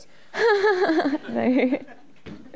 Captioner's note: laughing